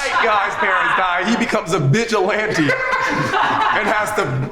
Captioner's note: group members laugh